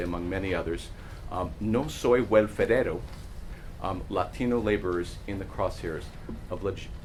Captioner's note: non-english speech